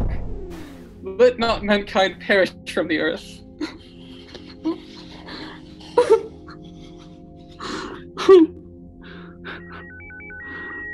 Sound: sobbing into exhaustion

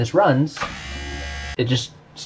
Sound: pump runs

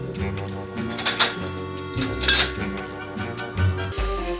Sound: bottles clinking

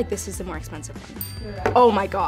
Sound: bell chimes

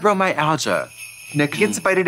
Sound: sleigh bells jingling

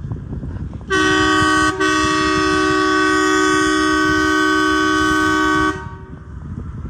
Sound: crane horn blows

